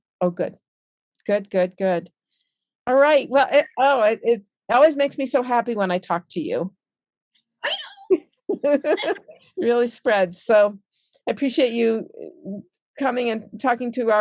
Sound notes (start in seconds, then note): 8.5 both laughs